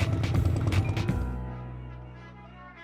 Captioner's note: horns honk